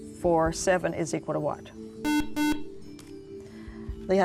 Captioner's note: buzzer